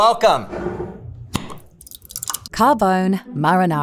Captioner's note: jar cap clacking; jar scraping; sauce sloshing